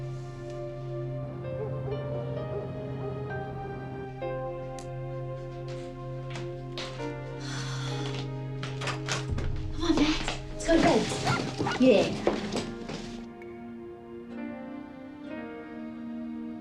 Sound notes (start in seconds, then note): 7.3 exhales; 10.8 max barking